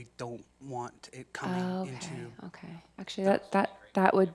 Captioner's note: chattering